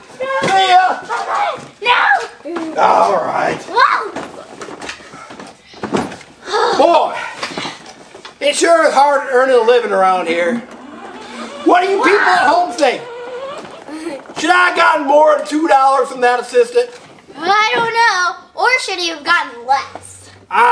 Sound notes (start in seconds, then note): 10.6 car engine whirs